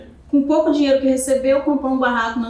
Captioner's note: speaking portuguese